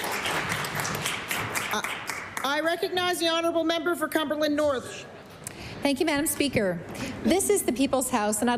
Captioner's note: applause